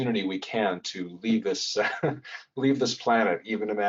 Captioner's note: laughs